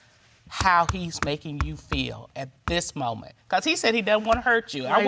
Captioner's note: bangs table